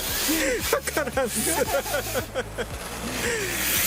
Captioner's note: laughs